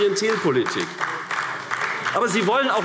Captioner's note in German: Beifall AfD